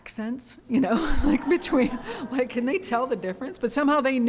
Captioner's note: laughter